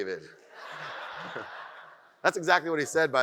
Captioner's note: audience laughs